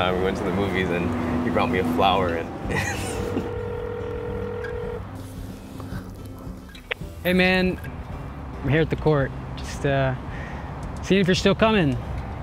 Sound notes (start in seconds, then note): 2.6 laughs; 2.8 phone ringing